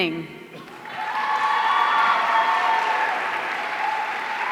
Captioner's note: audience cheering